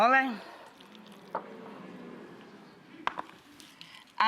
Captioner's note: audience oohing